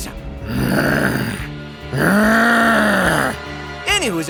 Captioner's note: zombie noises